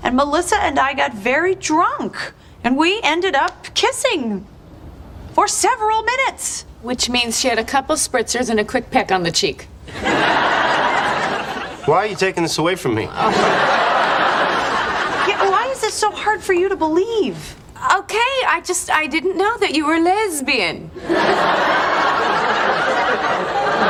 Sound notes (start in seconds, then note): 9.8 laugh Track